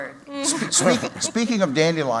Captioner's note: laughter